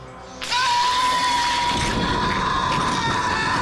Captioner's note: Jacob shouts